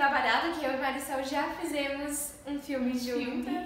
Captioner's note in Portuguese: risos